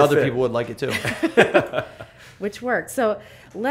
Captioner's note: laughter